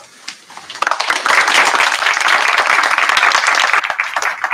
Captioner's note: applause